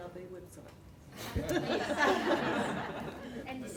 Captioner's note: audience laughter